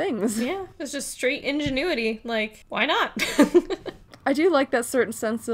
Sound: laughs

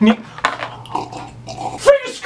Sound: gulp

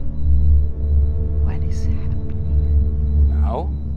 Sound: whispering

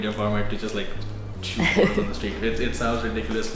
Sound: laughs

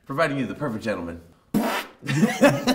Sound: fart noise

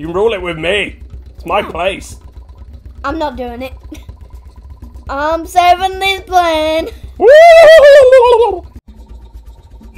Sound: scared fish noises

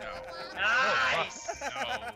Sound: laugh

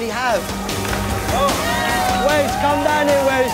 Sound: cheering

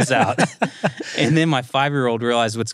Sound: laughs

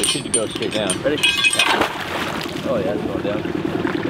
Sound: water splashing

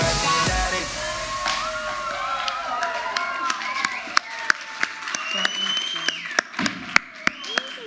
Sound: audience cheers; audience applauds

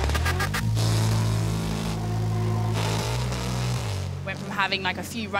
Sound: cars rumbling

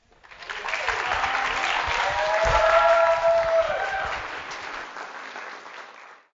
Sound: applause and Cheers

